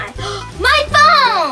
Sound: gasps

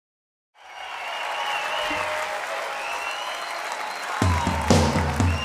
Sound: crowd applauding; crowd cheering

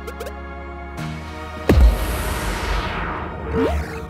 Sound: stick booms

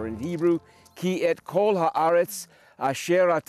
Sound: speaking Hebrew

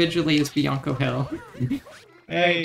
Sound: chuckles

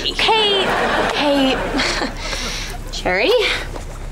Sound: chuckles

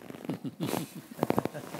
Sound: chuckles

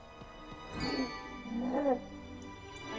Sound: purrs

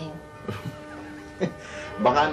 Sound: chuckles

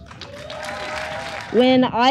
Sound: crowd cheering

